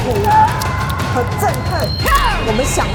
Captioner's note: Mandarin language